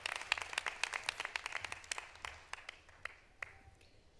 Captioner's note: applause